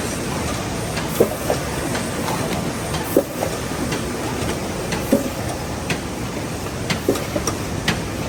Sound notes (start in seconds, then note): 0.0 machine whirring and clunking